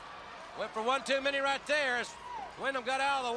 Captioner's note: crowd cheering